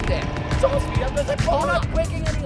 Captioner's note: car revving